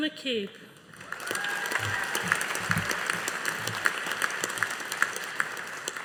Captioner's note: audience applauding